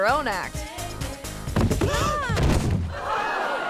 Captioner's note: bodies thudding; audience gasping; audience clamoring